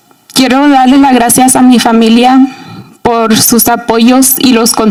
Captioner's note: speaking in Spanish